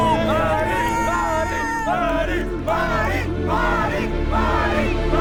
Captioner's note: crowd cheering